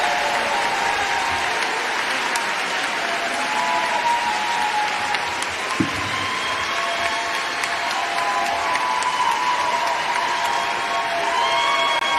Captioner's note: applause